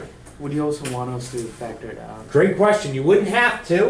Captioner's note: voiceover